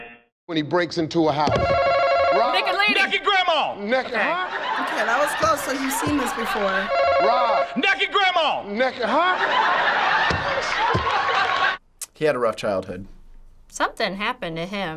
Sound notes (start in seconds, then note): 10.2 thumping table